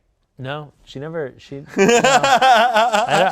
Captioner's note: laughs